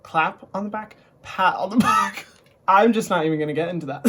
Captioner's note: laughs